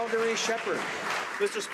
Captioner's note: some Applause